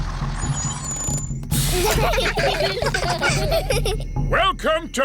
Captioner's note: children giggling